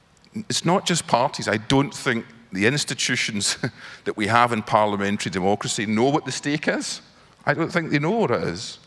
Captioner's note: laughs